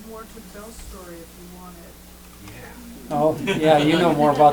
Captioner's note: laughter